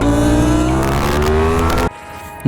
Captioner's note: engine revving